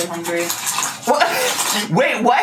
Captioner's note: laughs